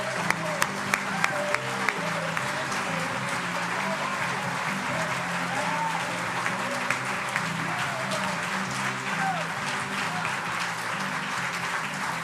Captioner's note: applause